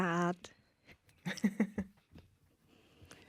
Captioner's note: soft giggles